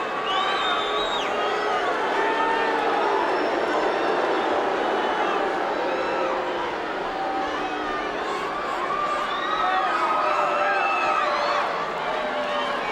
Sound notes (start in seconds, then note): 1.7 crowd boos